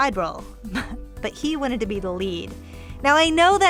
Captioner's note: laughs